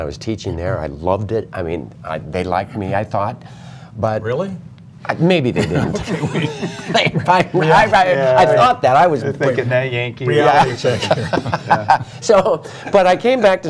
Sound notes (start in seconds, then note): 5.5 laughter